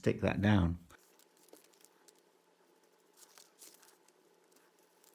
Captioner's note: paper rustling